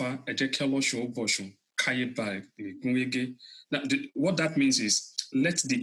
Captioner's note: speaking Foreign Language